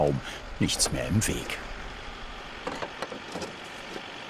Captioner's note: engine roar, rumble